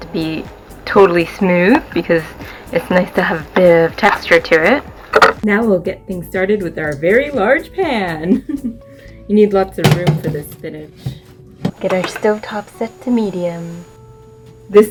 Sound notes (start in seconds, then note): 8.2 laughter